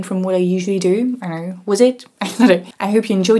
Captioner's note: chuckles